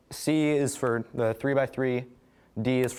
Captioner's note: none